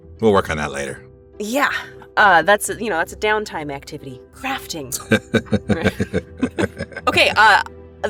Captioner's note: chuckles